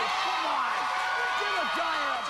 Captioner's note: cheering